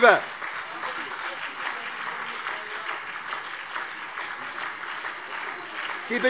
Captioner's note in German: Beifall SPD - Zurufe BÜNDNIS 90/DIE GRÜNEN